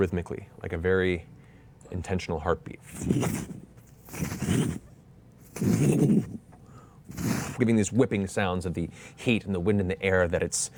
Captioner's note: roaring flames